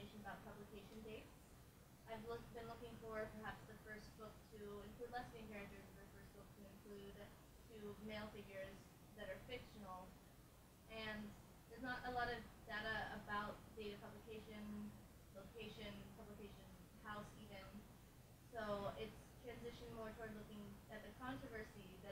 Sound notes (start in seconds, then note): 6.5 speaking faintly